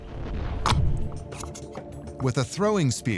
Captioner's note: gelatin squelching